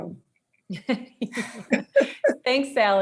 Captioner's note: both chuckle